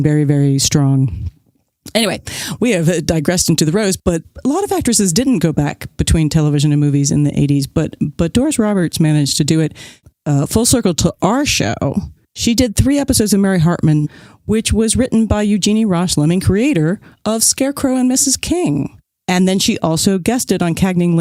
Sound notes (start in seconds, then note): none